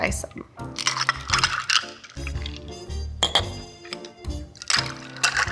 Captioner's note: ice cubes clinking